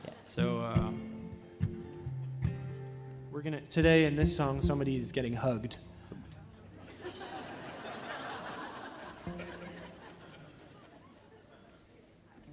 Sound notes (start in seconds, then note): 6.7 audience laughing